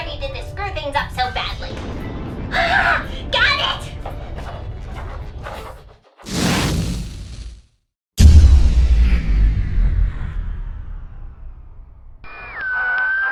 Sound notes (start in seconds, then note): 5.4 scribbling; 6.2 sound of world re-starting